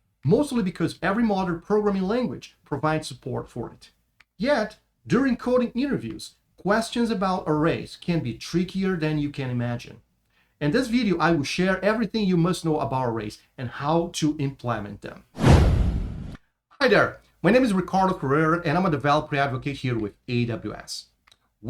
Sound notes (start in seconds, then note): 15.3 transition whooshes